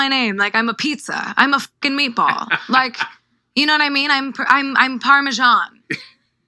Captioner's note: Ebro laughing